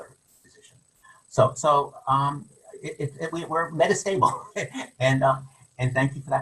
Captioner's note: laughs